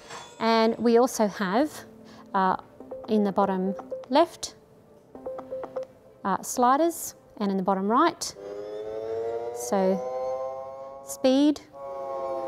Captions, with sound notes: and we also have, in the bottom left sliders and in the bottom right. So speed (machine hums louder).